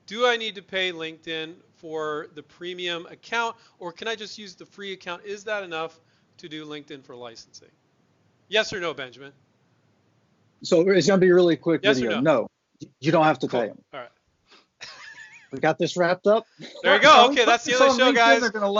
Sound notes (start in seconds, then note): 15.1 laughs